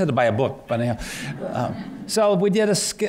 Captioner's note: laughter